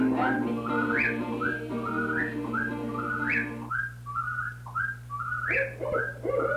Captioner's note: night sounds